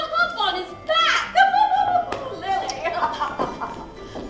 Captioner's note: laughs